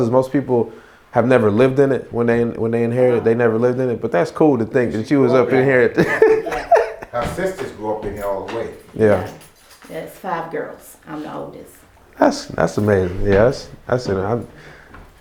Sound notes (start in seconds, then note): 5.4 laughing